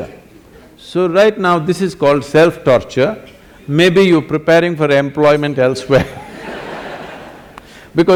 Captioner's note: laughter